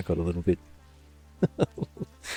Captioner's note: laughs